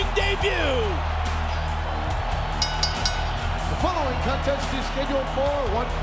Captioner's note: applause